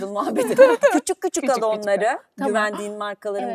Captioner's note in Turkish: kahkaha